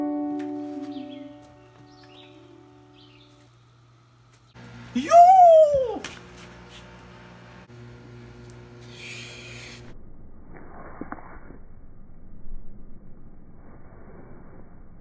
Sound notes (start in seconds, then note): 8.8 takes a deep breath in